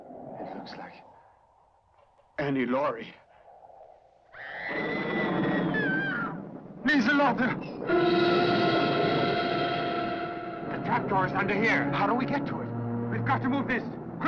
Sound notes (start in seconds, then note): 4.3 Lottie screaming; 7.8 suspenseful orchestral music